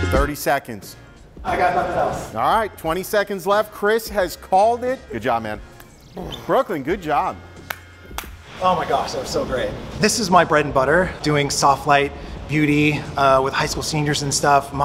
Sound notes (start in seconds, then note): 8.1 clapping